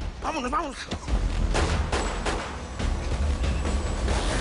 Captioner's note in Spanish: Disparos